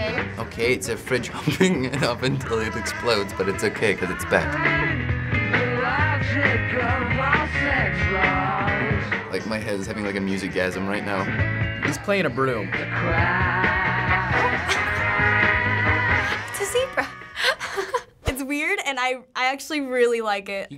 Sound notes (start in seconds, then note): 14.3 laughing